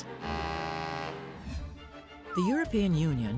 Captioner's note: horn honks